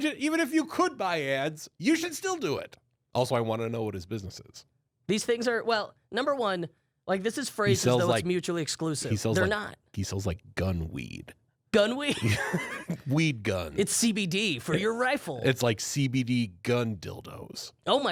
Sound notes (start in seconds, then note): 12.1 both laughing